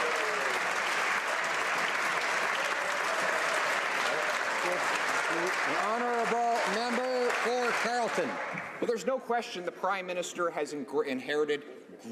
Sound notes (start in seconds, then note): 1.8 some Applause